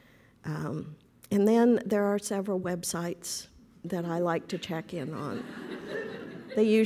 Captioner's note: laughter